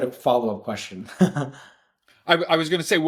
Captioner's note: laughing